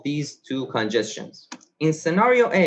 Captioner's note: mouse clicks